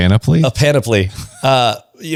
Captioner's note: laughs